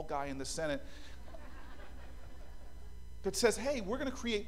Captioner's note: laughter